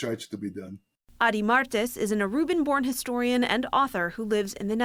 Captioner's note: voice-over